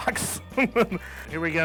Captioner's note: laughter